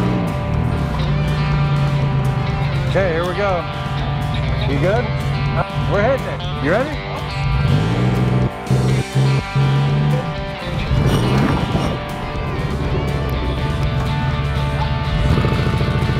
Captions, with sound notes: Okay here we go. You good? (upbeat music) (vehicle engine roaring)